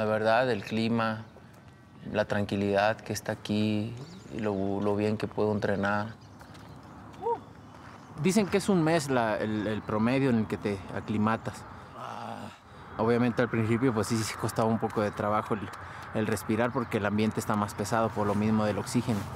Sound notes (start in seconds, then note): 11.9 gruñe